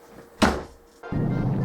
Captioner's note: door close; earthquake